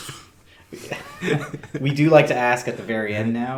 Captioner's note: laughing